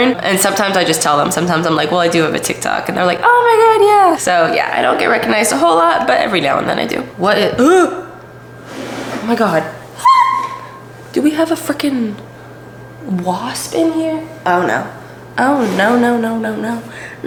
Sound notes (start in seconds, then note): 10.0 scream